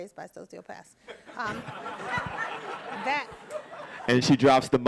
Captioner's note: audience laughing